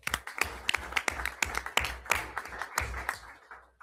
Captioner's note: everyone applauds